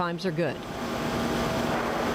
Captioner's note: whirring